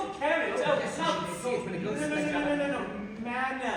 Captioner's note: they chatter on